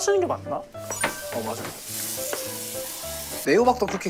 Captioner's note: ding ding